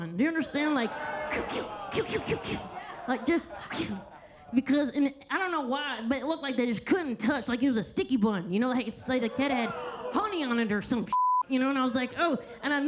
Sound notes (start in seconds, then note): 1.9 whistles roughly; 11.1 beep